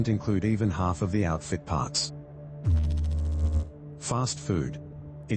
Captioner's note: electrical noise